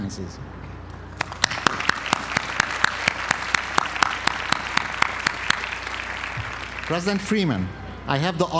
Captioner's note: applause